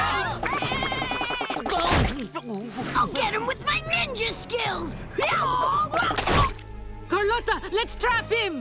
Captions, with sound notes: [squawking] I'll get him with my ninja skills! [yelling] Carlotta, let's trap him!